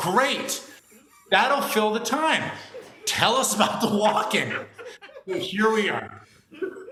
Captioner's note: laughter